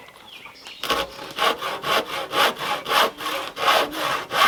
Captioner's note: sawing